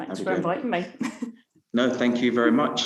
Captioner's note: laughing